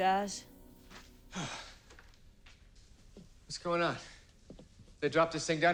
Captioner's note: sighs